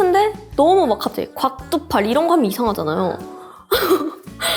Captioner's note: laugh